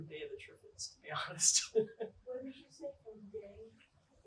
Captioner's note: laughter